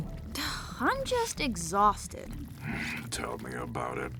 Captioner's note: sighs